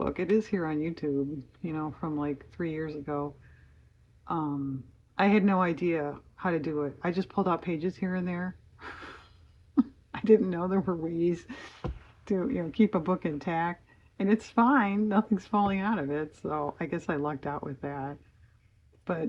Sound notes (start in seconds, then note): 8.8 laughs